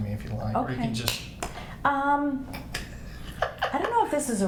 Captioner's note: snaps fingers; laughs